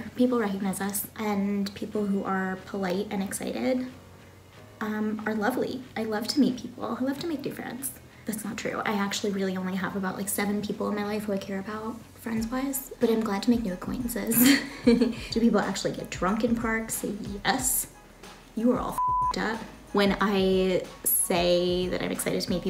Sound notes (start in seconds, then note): 14.4 laughs; 18.9 beep